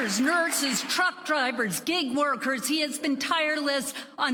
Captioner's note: applause